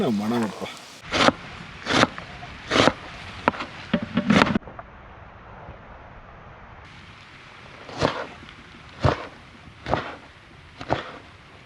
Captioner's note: chopping